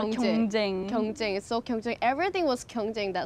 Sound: speaks in foreign language

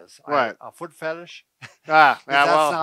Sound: laughs

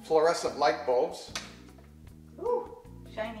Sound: switch clicks

